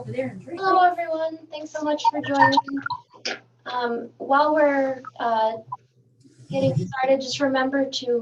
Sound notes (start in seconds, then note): 1.8 chatter